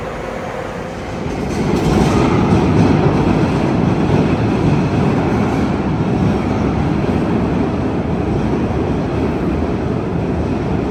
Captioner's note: suburban trains